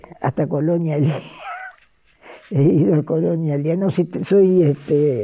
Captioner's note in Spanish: risas